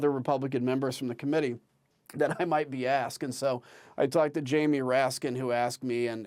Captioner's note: laughter